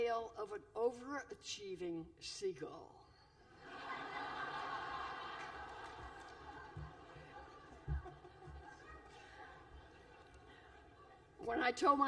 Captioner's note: laughter